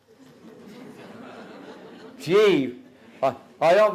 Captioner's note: audience Laughter